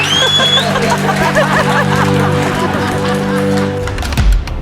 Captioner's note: laughter; laughter and applause